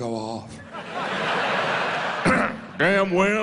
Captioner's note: laughter